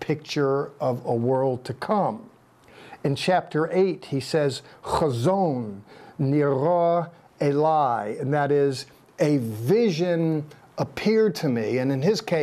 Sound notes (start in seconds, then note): 4.9 speaking in Hebrew